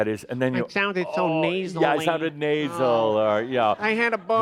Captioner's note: in a nasal voice